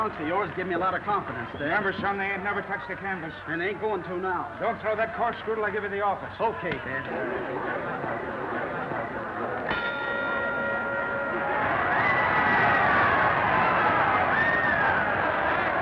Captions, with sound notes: Wearing these old trucks of yours give me a lot of confidence, dad. Remember, son, they ain't never touched a canvas. And they ain't going to now. Don't throw that corkscrew until I give you the office. OK, Dad. [bell rings]